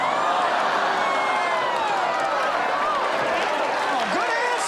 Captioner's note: audience groans